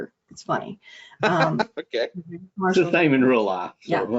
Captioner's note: chuckling